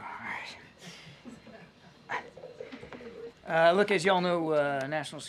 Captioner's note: laughs